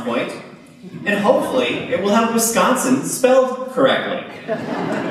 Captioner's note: laughter